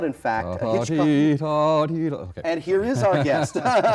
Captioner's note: Royal humming the tune; both laughing